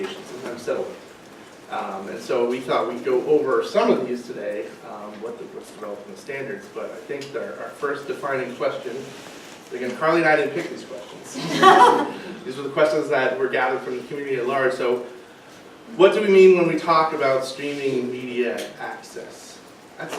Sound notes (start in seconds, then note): 11.3 audience laughing